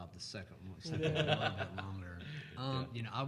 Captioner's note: laughing